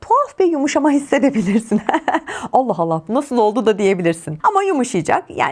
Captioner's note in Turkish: kahkaha